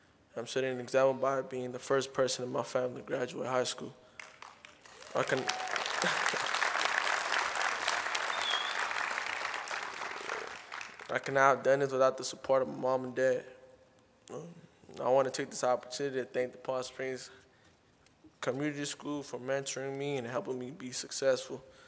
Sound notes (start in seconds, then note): 4.2 applause, Cheering